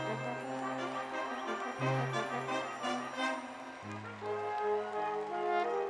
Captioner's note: cheering and applause